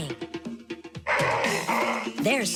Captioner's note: lion roaring